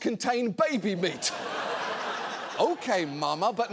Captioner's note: audience laughs